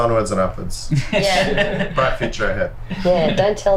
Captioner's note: others laugh